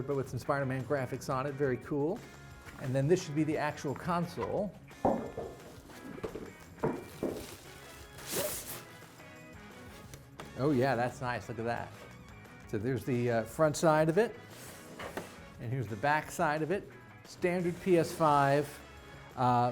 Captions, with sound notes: but with some "Spider-Man" graphics on it. Very cool. And then this should be the actual console. (console clattering) (plastic rustling) Oh yeah, that's nice, look at that. So there's the front side of it and here's the back side of it. Standard PS5,